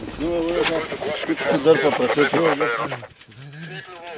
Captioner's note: drivers chattering; shuffling